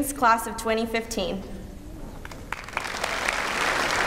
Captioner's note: applause